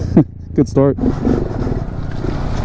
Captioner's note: laughs